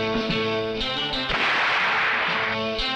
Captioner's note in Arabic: اطلاق النار بالبندقية; تستمر الموسيقى المتوترة